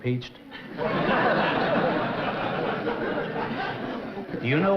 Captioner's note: laughter